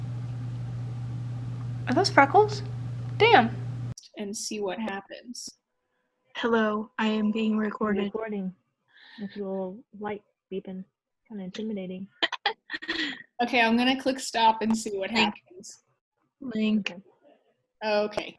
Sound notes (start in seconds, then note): 12.2 laughs